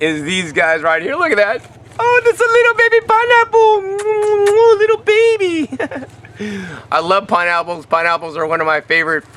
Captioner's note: kisses